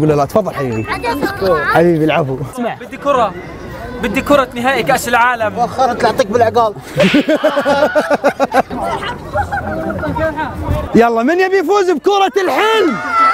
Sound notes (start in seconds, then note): 6.9 laughs; 12.4 crowd cheering